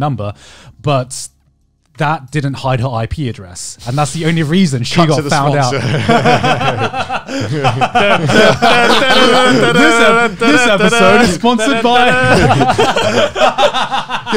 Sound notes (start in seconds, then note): 5.4 everyone laughs; 13.3 laughs